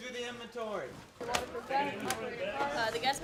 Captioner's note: people chattering